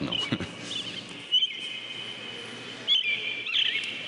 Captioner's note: birds chirping